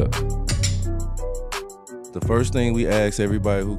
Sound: hip hop music; glasses clanking

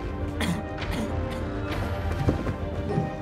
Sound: Ben coughing

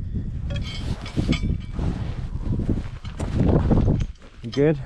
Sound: metals clunking

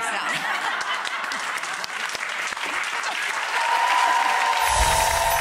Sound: audience laughs, claps and cheers

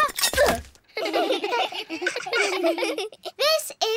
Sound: all giggle

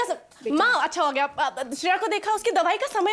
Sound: stammering

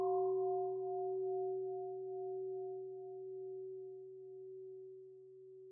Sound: bell

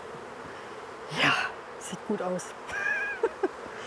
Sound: laughing

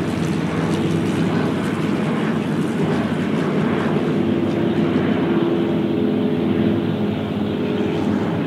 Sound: planes overhead

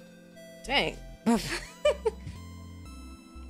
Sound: laughing cause I bumped into my mic

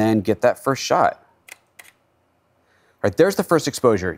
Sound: shutter sound

